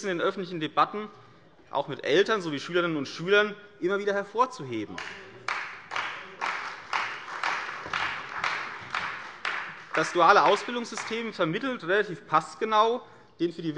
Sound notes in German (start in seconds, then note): 4.9 Beifall bei der CDU